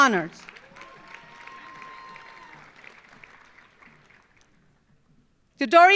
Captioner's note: audience applauding; audience cheering